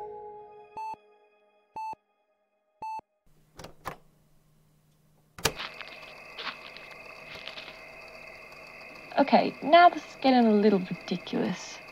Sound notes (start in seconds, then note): 0.1 gradual fade in of regular heart monitor beeps; 3.4 click; 5.4 sounds of footsteps crunching in a forest, night-air buzzing with insects